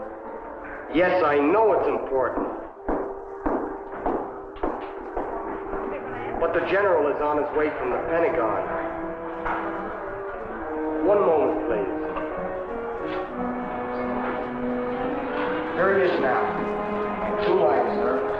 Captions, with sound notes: - Yes, I know it's important, (footsteps tapping) but the general is on his way from the Pentagon. One moment, please. Here he is now. On two-line, sir.